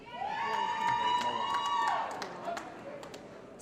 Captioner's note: applause & Cheering